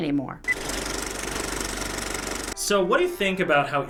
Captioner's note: movie reel clicks